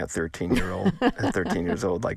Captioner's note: laughter